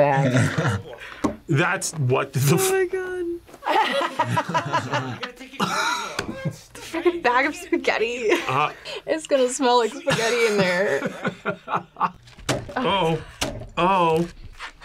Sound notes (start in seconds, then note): 0.2 chuckles; 3.6 both laugh; 3.6 laughs; 11.4 laughs